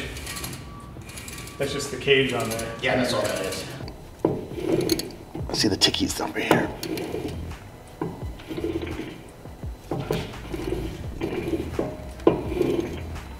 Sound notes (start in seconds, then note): 0.3 rumble disappears; 4.0 rollers ticking; 6.9 low, skipping noise as gear rotates